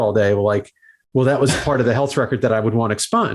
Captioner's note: host laughs